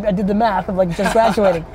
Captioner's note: laughs